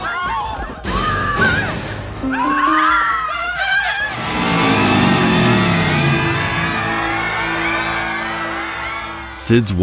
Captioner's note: screams of fear and pain